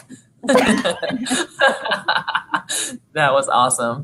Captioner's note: laughing